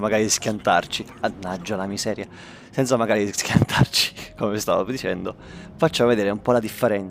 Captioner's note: laugh